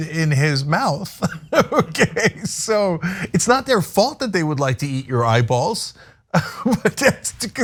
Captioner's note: laugh